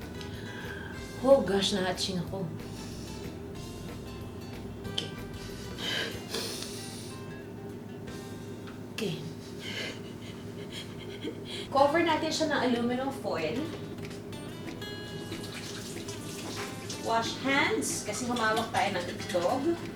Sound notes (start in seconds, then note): 0.3 inhales with feelings; 9.6 laughs